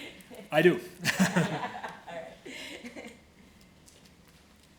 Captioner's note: laughing